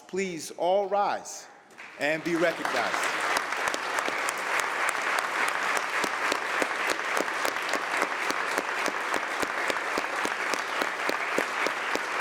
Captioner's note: applause